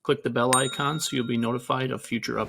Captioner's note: bell dings